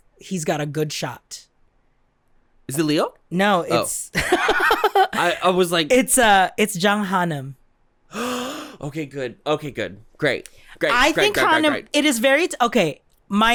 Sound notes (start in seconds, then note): 4.2 laughs; 8.1 gasp